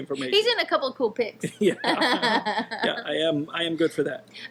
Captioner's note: both laughing